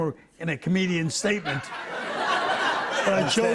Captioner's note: laughter